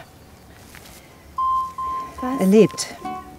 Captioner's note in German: GPS-Signalton